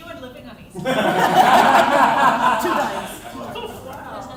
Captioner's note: laughter